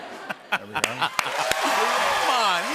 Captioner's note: laughter; cheers and applause